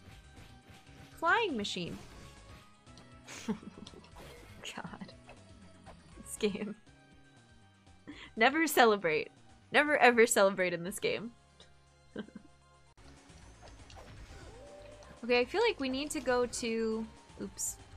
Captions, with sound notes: Flying machine! [Snickering] God... this game. Never celebrate. Never, ever celebrate in this game. Okay I feel like we need to go to... oops.